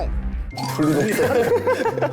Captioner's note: laughing